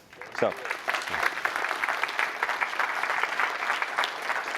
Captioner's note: applause